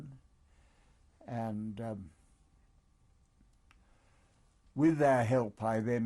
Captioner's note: pauses for 3 seconds